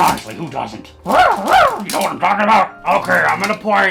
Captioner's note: barks